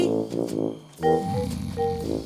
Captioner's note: snoring